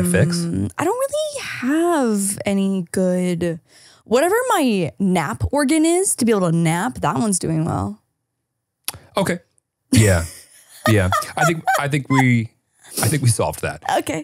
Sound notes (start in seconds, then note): 9.9 laughing